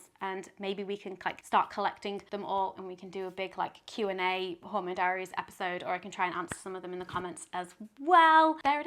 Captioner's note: none